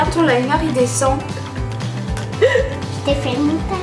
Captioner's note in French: rires